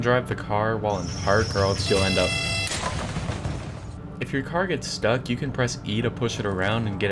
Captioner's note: explosion